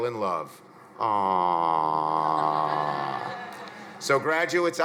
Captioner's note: crowd laughing